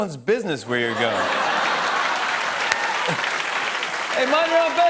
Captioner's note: laughter and applause